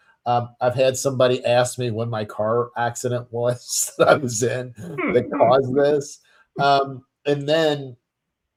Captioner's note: laughs